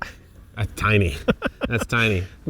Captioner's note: laughs